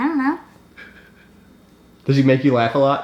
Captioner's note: giggles